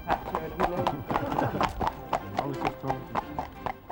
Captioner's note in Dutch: lacht